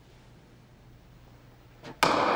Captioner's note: gavel bangs